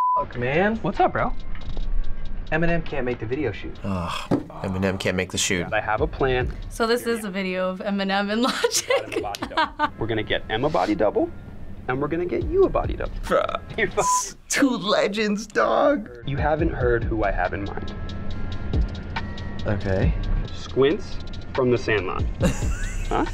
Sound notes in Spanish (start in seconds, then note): 8.5 risas